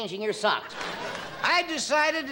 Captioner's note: crowd laughing and clapping